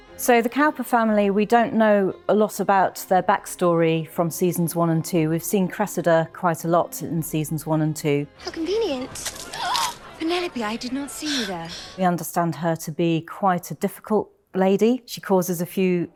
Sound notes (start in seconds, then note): 9.2 drink splashing; 9.5 Penelope gasping